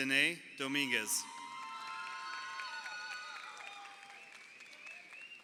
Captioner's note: crowd cheering